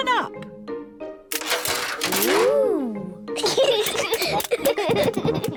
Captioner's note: giggling